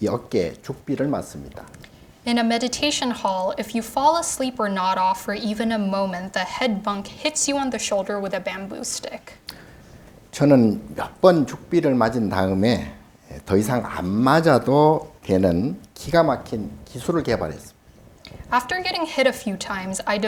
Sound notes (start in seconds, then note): 10.0 speaking Korean